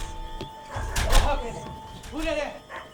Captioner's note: speaks foreign language